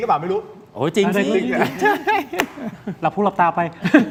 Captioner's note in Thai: เสียงหัวเราะ